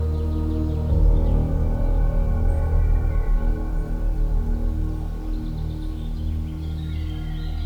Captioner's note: birds chirping